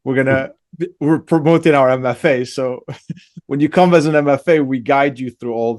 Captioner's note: laughs; laughs